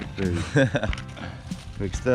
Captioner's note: laughing